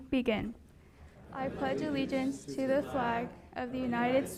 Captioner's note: crowd